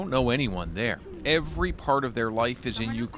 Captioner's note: speaking Foreign Language